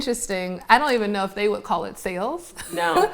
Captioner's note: laughs